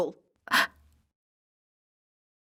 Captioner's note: woman gasps